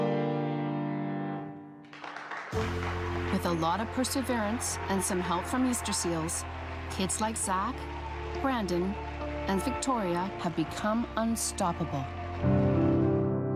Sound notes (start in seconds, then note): 4.7 applause